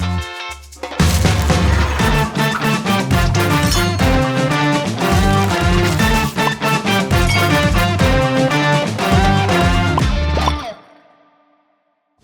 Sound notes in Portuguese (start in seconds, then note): 3.6 tilintar; 7.2 tilintar; 10.4 bolhas